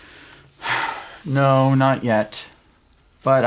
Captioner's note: sighs